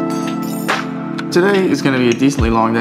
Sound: utensils clinking

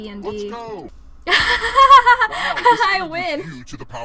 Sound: laughs

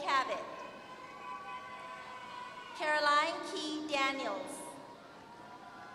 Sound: applause; applause

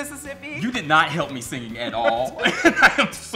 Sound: laughing

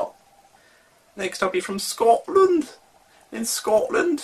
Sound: in Scottish accent

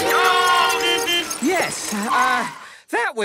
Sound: beeping; whistle blowing

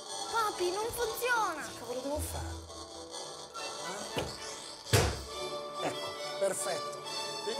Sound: knock knock

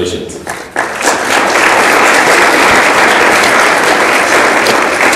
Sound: audience applauds

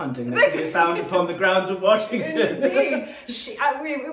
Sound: laughing

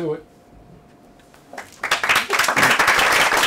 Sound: applause

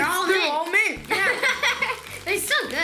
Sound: laughing

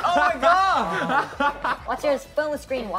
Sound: all laughing

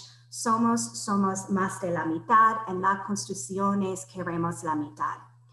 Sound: speaks in foreign language

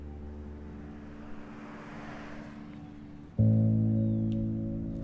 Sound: relaxing music begins; cars whooshing

